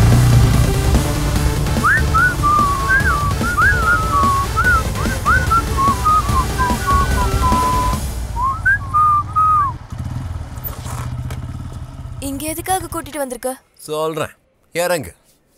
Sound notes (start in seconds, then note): 1.8 whistles